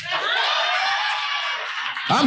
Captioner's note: audience cheering loudly